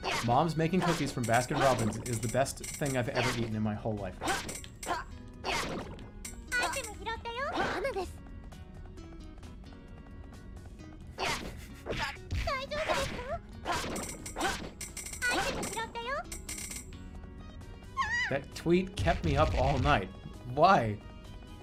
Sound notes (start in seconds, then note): 11.0 chuckles